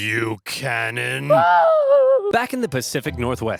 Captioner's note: screams